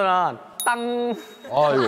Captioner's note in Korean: 맑고 쾌청한 소리